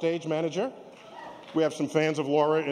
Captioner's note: applause